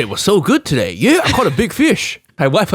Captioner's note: laughs